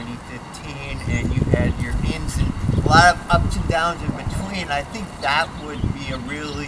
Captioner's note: wind blowing